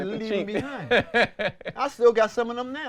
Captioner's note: laughs